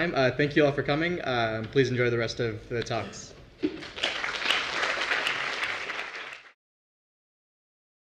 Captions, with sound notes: Thank you all for coming, please enjoy the rest of the talks. >> [APPLAUSE]